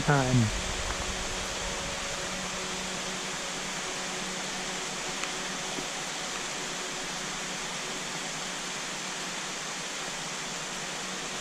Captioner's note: rain